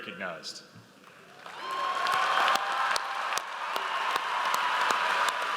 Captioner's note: audience applauds